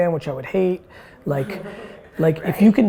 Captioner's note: woman 3 laughs